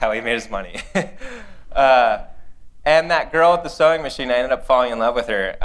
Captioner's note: laughter